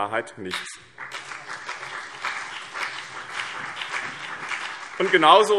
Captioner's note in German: Beifall BÜNDNIS 90/DIE GRÜNEN und CDU